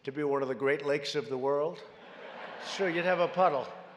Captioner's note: laughter